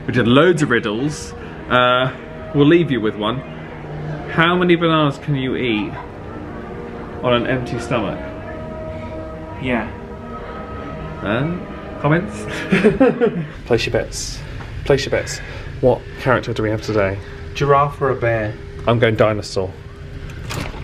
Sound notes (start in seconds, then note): 12.4 they chuckle; 20.2 latch clunks